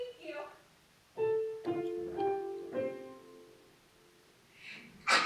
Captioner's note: ding dong bing bong